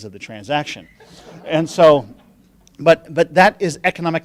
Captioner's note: laughing